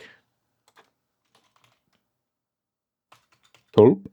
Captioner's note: keyboard clicking